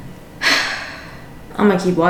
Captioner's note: sighs